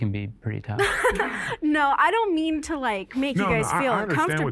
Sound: laughs

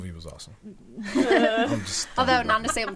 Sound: all laughing

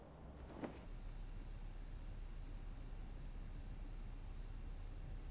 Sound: crickets chittering

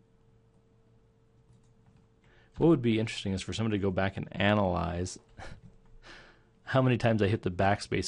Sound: chuckling

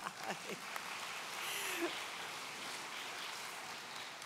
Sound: audience applauds

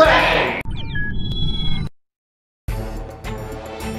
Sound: electronic noises; dramatic music

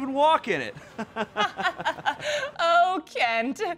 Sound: laughs

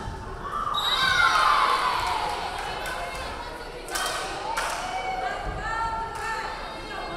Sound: crowd cheering; referee whistling

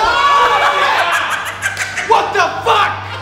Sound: laughing

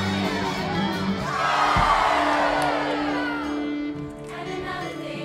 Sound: performers cheering

